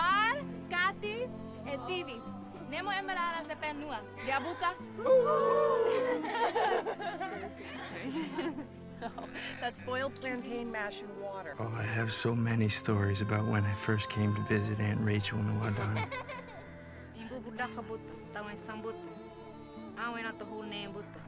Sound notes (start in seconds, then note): 5.0 natives hooting; 5.0 laughs